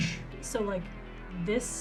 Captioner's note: makes a soft explosion sound